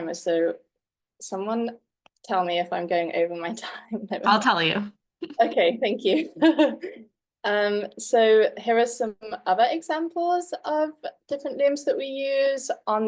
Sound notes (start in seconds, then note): 7.2 laughs